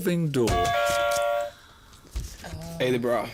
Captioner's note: buzzer